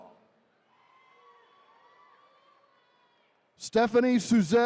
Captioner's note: attendees cheering